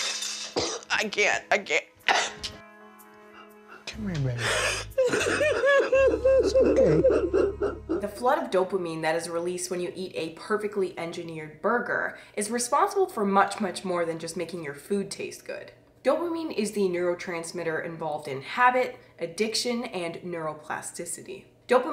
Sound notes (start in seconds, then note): 2.0 coughing; 4.4 crying